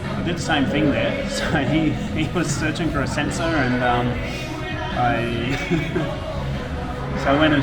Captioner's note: laughing